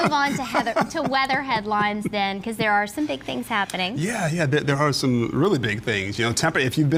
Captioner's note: laughter